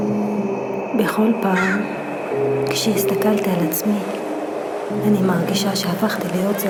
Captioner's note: woman speaking in foreign language